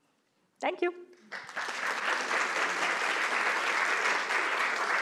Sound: applause

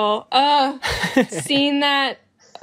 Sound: groans

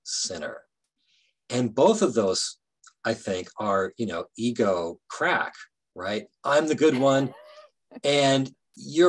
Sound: laughing

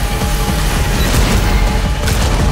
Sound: boom

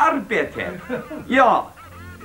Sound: speaking bad Swedish

